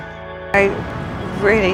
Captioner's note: voiceover